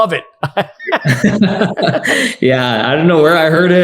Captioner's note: both laughing